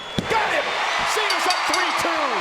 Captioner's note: bell rings